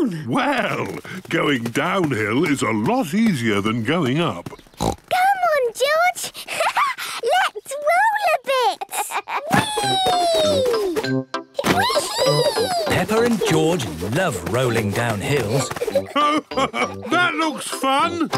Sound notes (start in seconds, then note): 4.5 snorts; 8.5 laughs